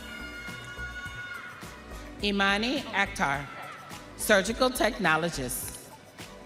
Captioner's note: audience cheering